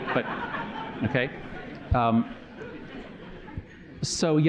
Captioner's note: laughter